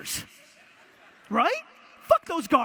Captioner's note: audience laughter